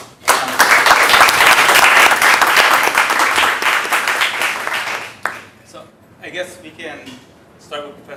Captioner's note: applause